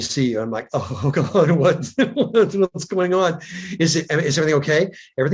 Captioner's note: chuckles